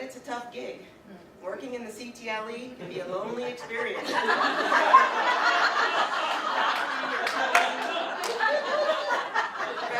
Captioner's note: audience: Laughter